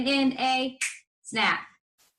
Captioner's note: finger snaps